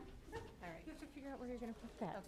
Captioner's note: chatter